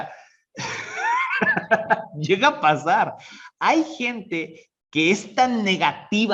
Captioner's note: laughs